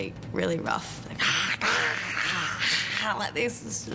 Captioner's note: growls